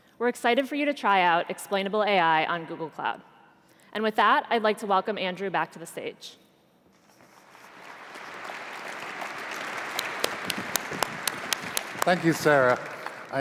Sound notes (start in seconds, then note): 7.4 applause